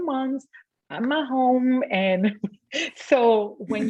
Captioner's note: chuckles